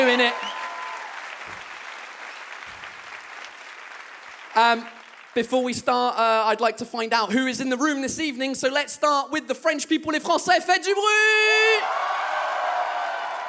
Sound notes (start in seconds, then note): 0.0 audience claps; 11.4 audience cheers